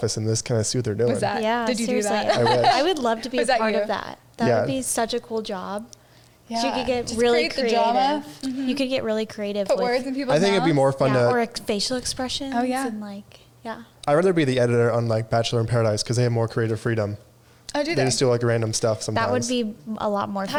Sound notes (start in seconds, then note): 2.3 all laugh